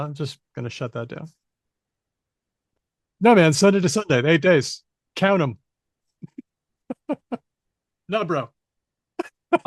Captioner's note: laughs